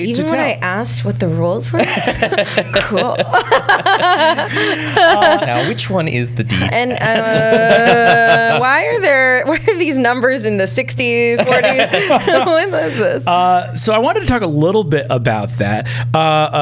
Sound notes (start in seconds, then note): 3.4 laughter